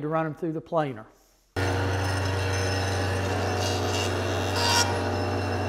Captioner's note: planer engine running